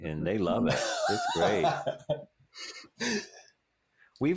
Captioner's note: laughs